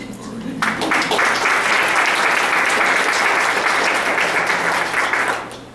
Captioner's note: applause